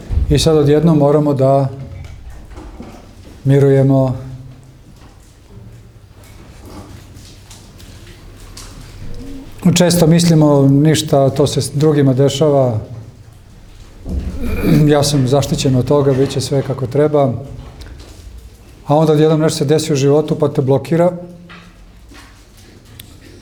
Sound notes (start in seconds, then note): 14.2 coughs